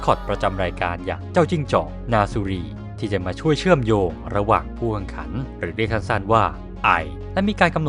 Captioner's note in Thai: ไอ